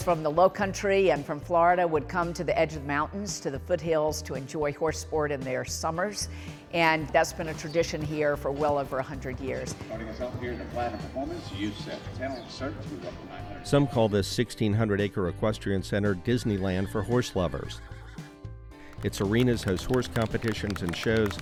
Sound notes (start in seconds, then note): 17.6 horse whinnies